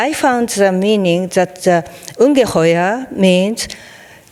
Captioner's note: speaking in foreign language